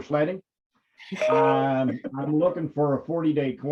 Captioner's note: panelists laughing